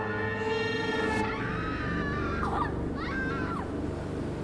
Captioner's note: siren screams